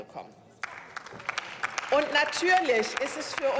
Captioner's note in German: Beifall